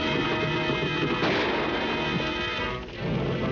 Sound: gun fires; dramatic music

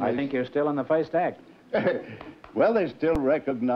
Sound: laughter

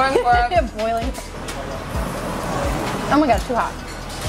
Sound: laughing

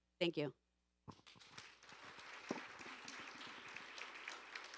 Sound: audience applauding

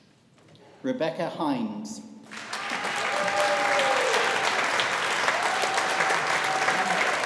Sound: audience applauding

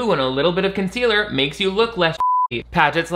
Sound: beep

